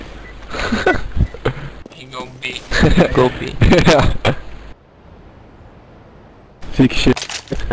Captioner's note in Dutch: laugh